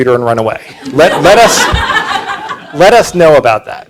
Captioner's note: audience laughing